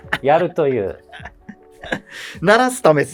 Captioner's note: laughing